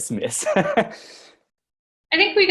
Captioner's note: laughs